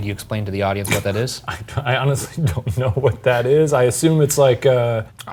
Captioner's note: laughing